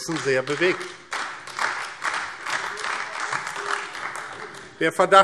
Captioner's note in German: Beifall AfD